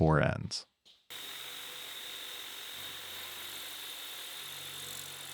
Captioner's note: machine whirring